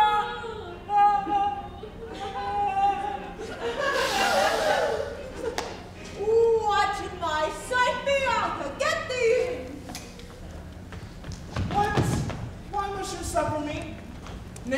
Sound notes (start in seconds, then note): 0.6 Bianca whimpers; 3.8 group gasps